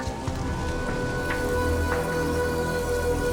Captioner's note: rustling